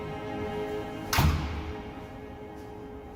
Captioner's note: door closing